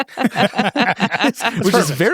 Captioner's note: everyone laughs